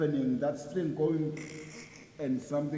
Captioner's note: groaning